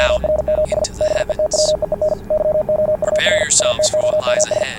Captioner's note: morse Code